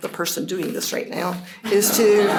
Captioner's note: laughter